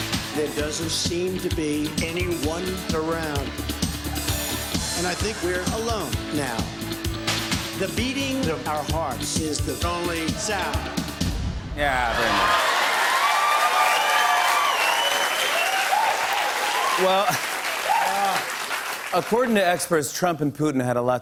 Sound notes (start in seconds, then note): 12.0 cheers and applause